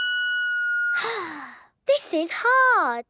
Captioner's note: off-key; sighing